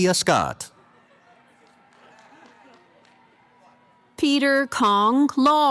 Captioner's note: cheering